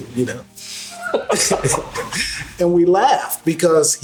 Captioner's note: laughing